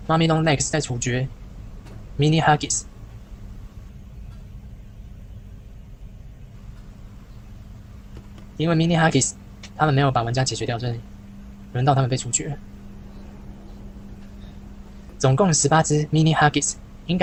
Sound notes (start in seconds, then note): 2.0 very quiet 1006 tracking sound